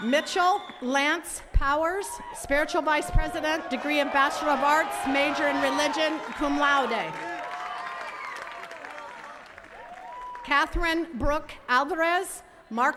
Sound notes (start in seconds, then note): 7.7 attendees cheers and claps